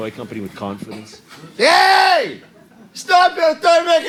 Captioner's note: enthusiastic Russian accent